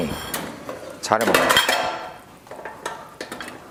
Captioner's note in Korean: 우당탕!